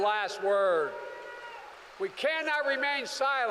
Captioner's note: applause